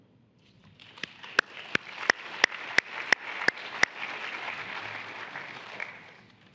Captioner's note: applause